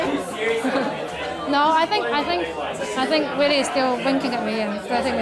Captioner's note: chuckles